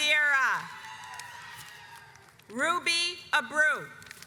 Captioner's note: audience applauds